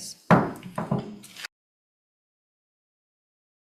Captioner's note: gavel bangs